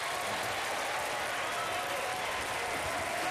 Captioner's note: applause